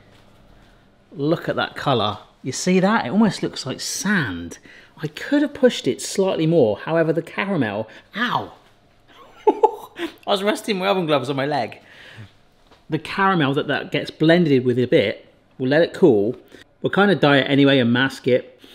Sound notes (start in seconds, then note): 9.1 laughs